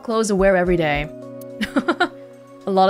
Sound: chuckles

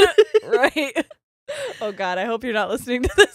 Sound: both laughing

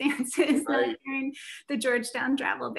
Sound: laughter

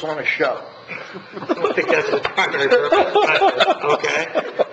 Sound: members laughing

